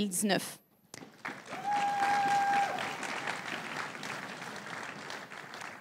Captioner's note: crowd cheering and applauding